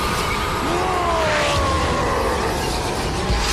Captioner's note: roar